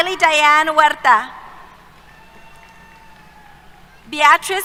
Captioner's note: cheers